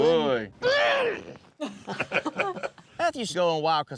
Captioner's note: everyone laughs